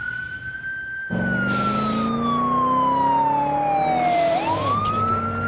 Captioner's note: car engine roars